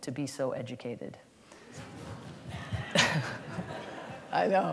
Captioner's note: laughter